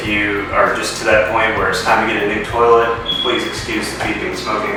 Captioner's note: beep